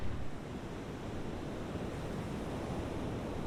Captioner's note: ocean breeze